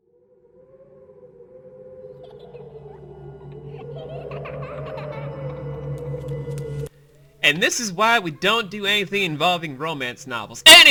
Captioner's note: disoriented shift of ghastly winds and children laughter